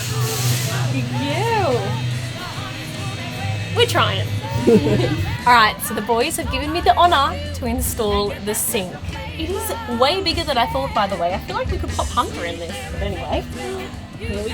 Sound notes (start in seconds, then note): 3.7 laughing